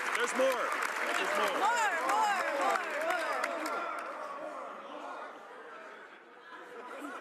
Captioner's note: applause